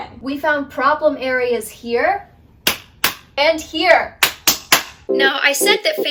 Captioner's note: claps